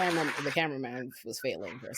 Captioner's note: audience applauding